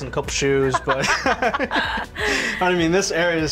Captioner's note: laughter